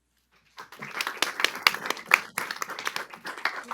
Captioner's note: applause